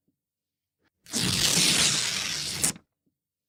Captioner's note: ripping